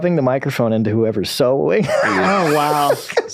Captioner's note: laughs